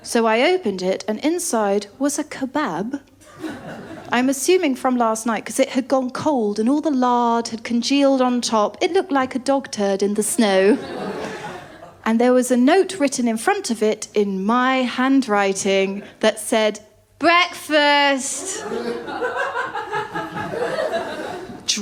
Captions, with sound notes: So I opened it and inside was a kebab. [LAUGHTER] I’m assuming from last night ‘cos it had gone cold and all the lard had congealed on top. It looked like a dog turd in the snow. [LAUGHTER] And there was a note written in front of it in my handwriting that said, [DRUNKENLY] 'Breakfast'. [LAUGHTER]